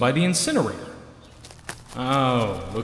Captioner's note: rapid footsteps!